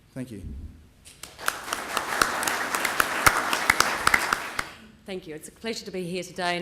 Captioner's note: clapping